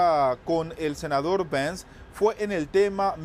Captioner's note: HABLAN EL INGLéS